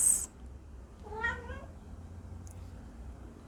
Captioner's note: cat meow